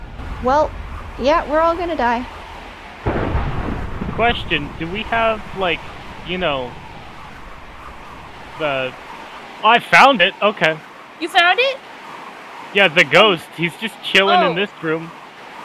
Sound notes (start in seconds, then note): 3.0 thunder rumbles